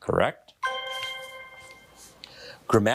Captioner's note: bell dinging